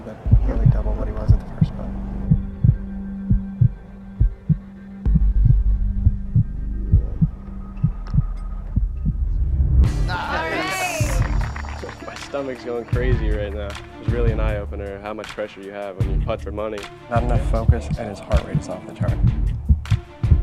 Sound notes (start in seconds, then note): 4.1 heart beating; 10.5 applause